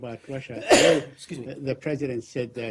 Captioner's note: coughs